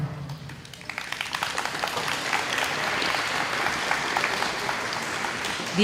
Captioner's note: applause